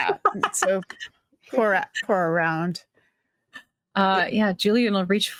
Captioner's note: cast members laughing